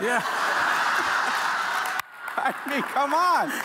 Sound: audience laughing

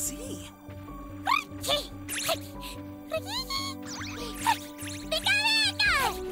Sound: gibbering

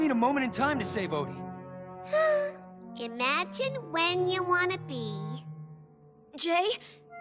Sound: sighing

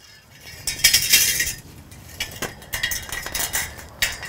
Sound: clunking

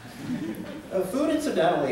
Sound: laughter

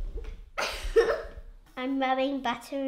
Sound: laughter

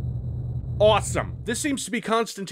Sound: sarcastically

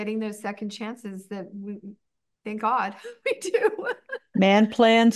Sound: laughs

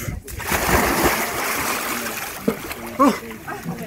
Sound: water splashes

